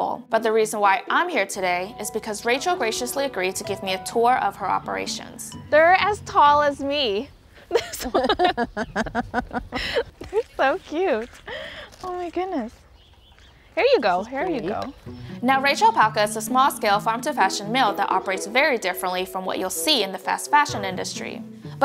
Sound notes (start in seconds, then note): 7.6 both laughing